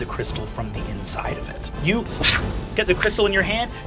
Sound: whooshes

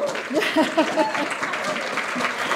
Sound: applause

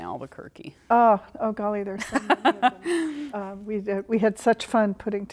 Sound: laughter

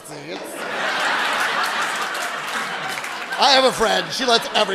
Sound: audience laughs and applauds

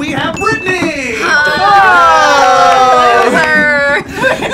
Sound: all cheer

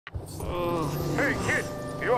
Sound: Lightning grunts

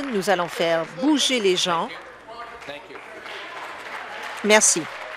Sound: applause

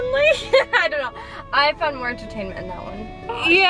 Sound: laughing

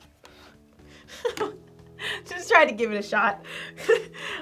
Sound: laughs

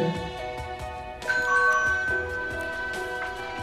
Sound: doorbell ringing

